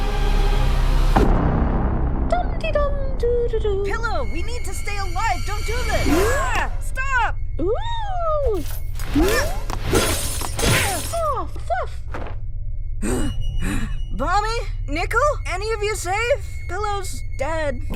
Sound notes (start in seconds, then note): 13.5 slowly breathing heavily